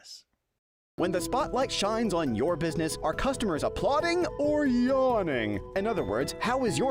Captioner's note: voiceover